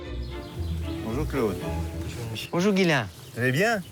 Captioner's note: speaking in foreign language